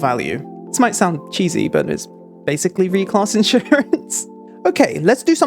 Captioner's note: laughing